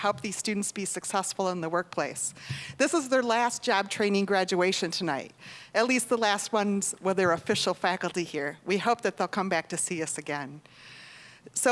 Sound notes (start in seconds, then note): none